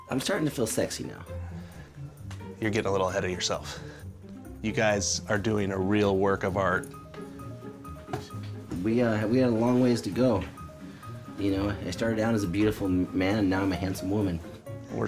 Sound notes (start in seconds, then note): none